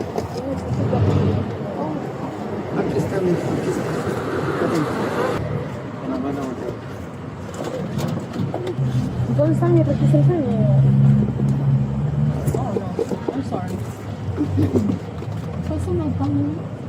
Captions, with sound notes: (Speaking in foreign language) (Speaking in foreign language) (Speaking in foreign language) (Speaking in foreign language) Oh, no, I'm sorry (Speaking in foreign language)